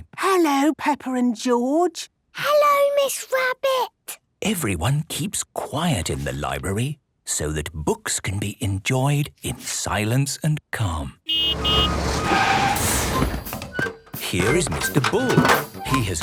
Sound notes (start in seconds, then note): 0.2 whispering; 11.2 honking, engine revving